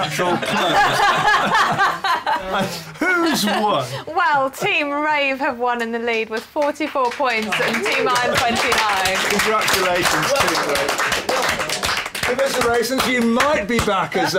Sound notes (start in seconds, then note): 0.0 laughter; 7.4 applause